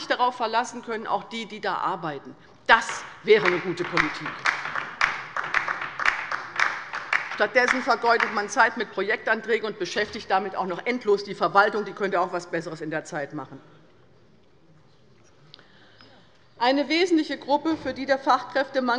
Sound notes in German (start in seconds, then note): 5.0 Beifall bei der LINKEN